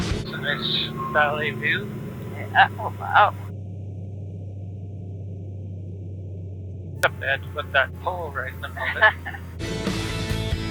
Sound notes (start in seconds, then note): 8.5 laughs